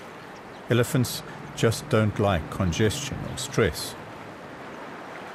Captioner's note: animals calling